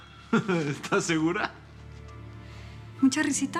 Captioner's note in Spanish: Riendo